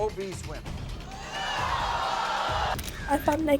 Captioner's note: audience gasping